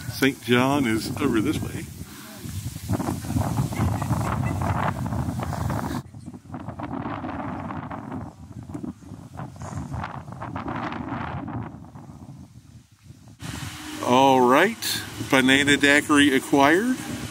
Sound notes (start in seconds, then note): 3.0 wind blowing; 7.5 wind blowing